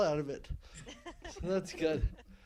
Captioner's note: laughing